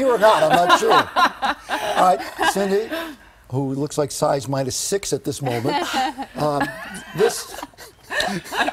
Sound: laughter

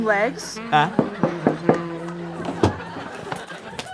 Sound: knocking

